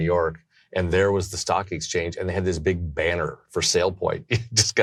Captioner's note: laughs